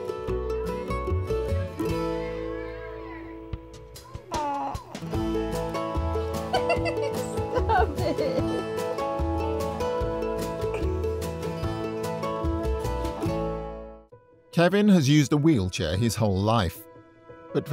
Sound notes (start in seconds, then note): 4.2 baby cooing; 6.4 giggles